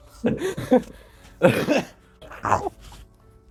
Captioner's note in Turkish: kahkaha